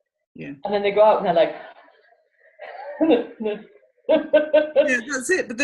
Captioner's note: laughs